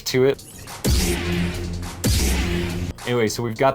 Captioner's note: lightsaber firing